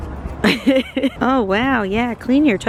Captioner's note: laughing